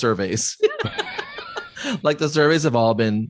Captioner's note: laughs